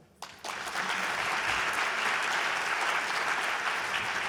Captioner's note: audience applauding